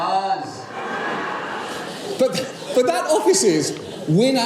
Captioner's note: laugh